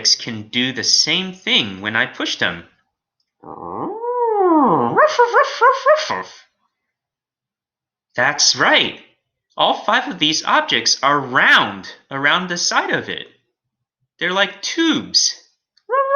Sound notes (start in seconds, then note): 3.3 Alien Space Doggy barking